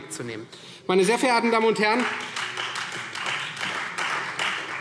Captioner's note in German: Beifall Freie Demokraten